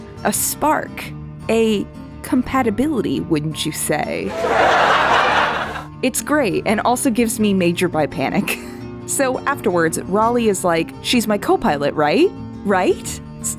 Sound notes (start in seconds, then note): 4.2 canned Laughter; 8.3 me chuckling